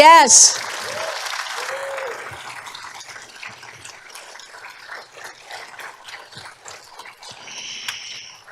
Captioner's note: applause